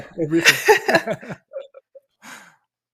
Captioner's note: laughter